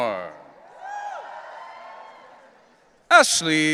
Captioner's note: audience cheering